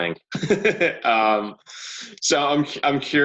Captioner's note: laughing